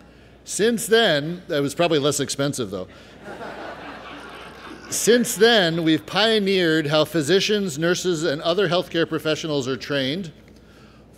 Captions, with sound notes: Since then, That was probably less expensive, though. (laughter) Since then, we've pioneered how physicians, nurses, and other healthcare professionals are trained.